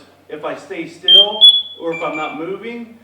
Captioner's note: suit chirps